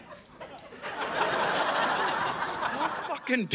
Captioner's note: audience laughing